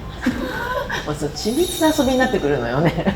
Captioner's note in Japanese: 笑い